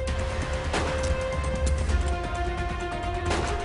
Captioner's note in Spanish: Disparo